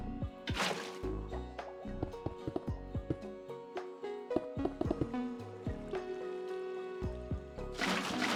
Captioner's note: water bubbling